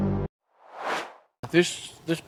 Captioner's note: intense music; swoosh